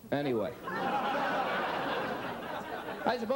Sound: audience laughs

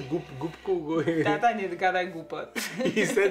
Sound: speaks Polish

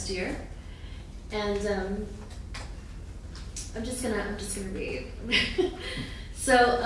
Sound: laughing

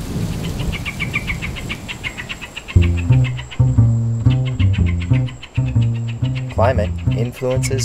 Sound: bird chirping

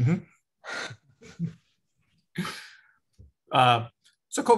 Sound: both chuckle

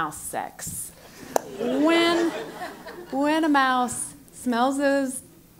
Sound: laugh

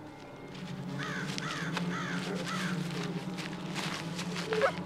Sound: bird squawking; suspenseful music

